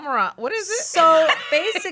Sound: laughs

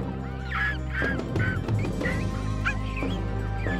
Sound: rats squeaking

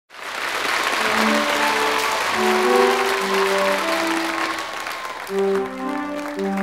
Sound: audience cheers and applauds

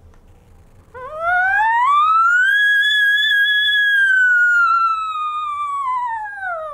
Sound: ascending and descending elk call sound

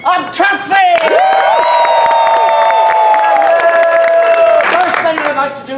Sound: cheers

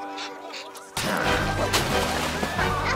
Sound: sniffs

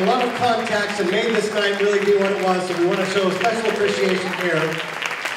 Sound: applause

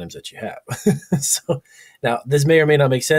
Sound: laughs

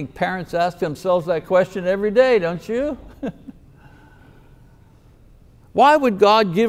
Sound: chuckles

